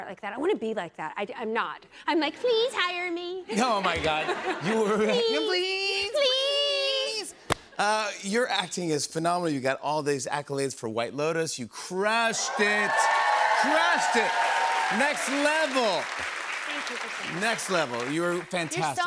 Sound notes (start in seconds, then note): 3.5 laughter; 12.2 cheers and applause